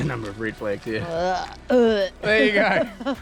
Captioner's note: gags; laughs